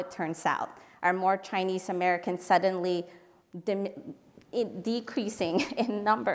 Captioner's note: laugh